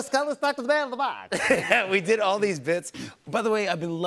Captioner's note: normal voice